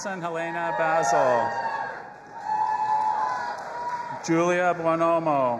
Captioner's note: audience applauding and cheering